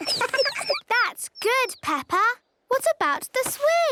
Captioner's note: tweets